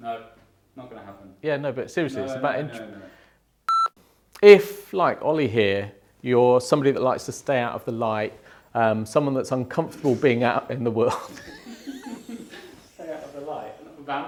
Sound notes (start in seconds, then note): 3.7 video beeps; 11.0 laughs